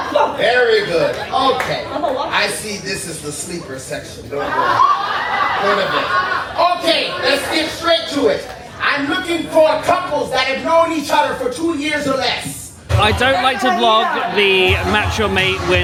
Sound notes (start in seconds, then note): 4.1 guests laugh